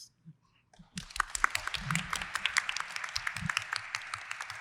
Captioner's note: applause